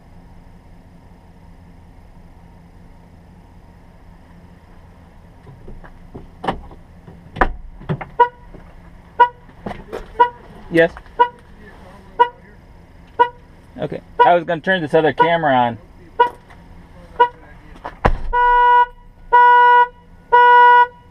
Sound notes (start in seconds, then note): 6.8 door opens; 9.1 horn alarm sounds; 17.8 door shuts; 19.9 alarm sounds